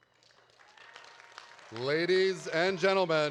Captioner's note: audience applauding